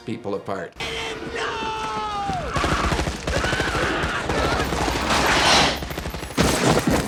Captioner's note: gunfire popping